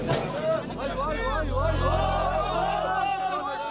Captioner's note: shouting